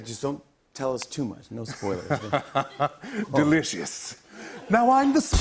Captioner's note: laughs